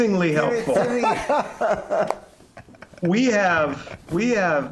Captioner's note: laughter